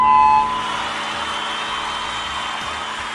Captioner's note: applause